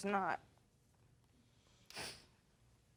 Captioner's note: sniffles